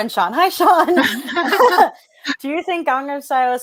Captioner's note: both laughing